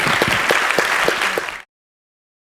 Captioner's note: applause